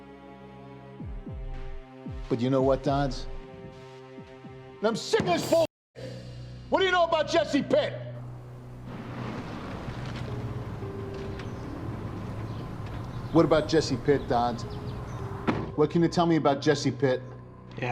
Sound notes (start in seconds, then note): 0.3 dramatic music; 8.2 car engine revving; 11.5 dramatic music; 12.3 birds chirping